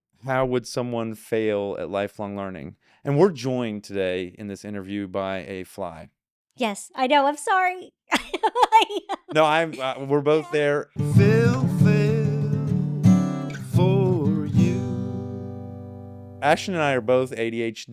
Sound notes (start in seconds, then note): 8.1 laughter